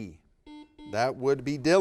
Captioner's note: buzzer beeping